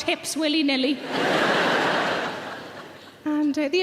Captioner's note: audience laughs